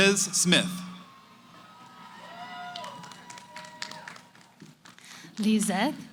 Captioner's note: cheering